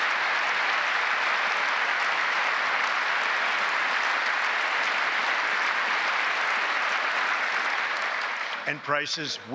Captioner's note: applause